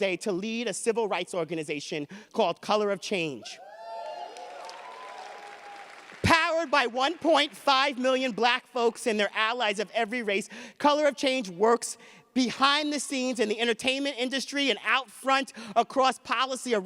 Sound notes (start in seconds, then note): 3.6 audience cheers